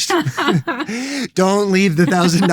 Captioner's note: laughter